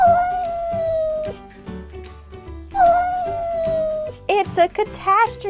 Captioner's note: cat meows